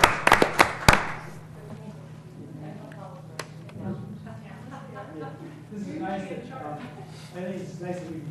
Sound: laugh

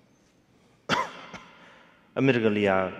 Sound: coughing; speaking in foreign language

